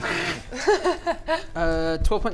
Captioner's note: laughs in BS